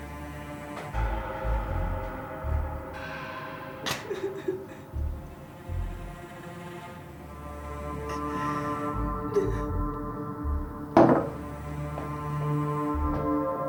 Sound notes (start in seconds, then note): 9.2 crying